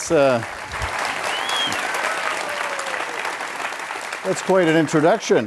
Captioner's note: audience cheers